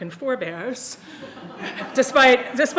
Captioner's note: audience laughing